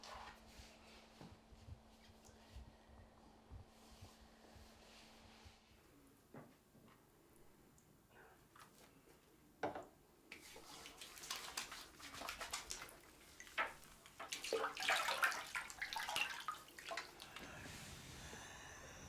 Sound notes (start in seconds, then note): 12.0 water splashing